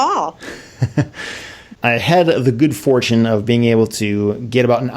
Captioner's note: laughs